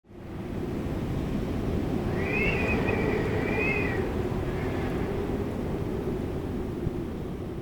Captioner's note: whistling wind